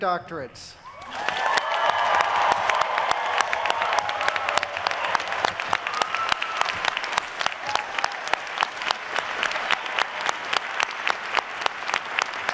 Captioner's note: cheering and applause